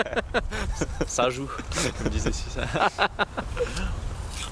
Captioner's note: laughs